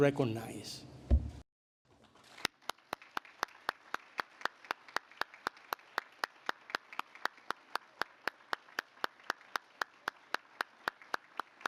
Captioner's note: applause